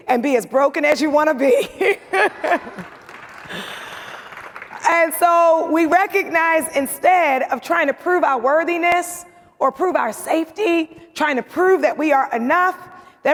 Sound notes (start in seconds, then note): 1.6 chuckling; 1.9 audience laughs and applauds